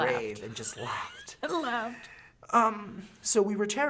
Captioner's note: laughing